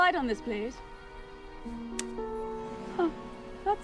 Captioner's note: soft beeping